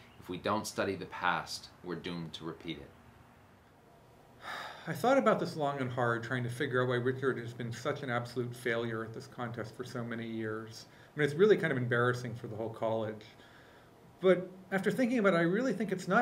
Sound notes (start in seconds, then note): 4.4 sighs